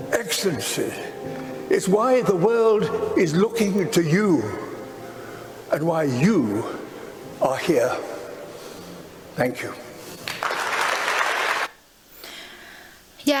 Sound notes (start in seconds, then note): 10.2 applause